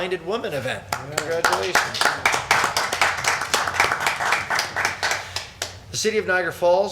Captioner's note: people clapping